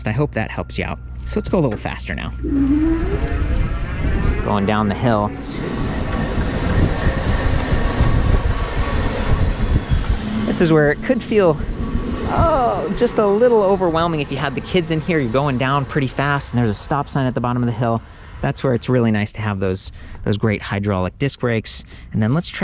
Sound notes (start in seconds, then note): 3.0 motor engine roaring